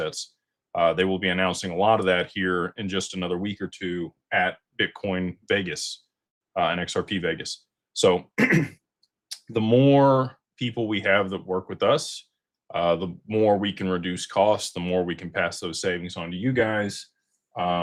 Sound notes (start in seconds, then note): 8.3 clears throat